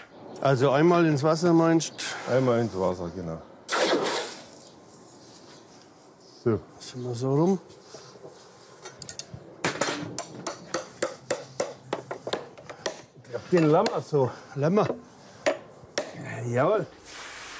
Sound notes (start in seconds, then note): 3.6 hissing